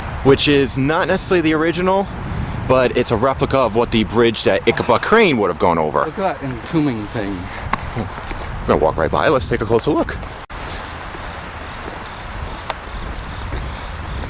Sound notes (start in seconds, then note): 10.5 cricket Noises